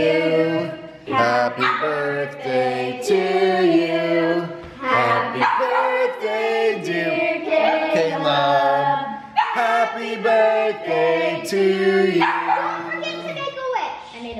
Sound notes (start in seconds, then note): 12.1 dog barking